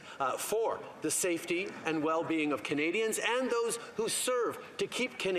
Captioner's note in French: voix de l'interprète